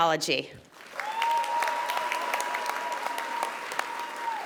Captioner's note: audience applauding